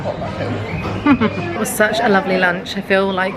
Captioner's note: chuckles